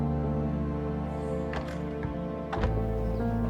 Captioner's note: door shuts